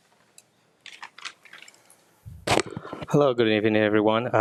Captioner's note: papers rustling